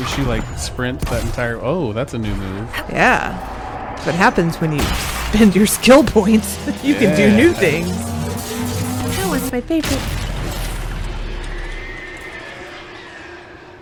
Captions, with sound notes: Did she like sprint that entire...oh that's a new move. YEAH. That's what happens when you spend your skill points! You can do NEW things! [Green Electric Noises] [Demons Screaming in Agony]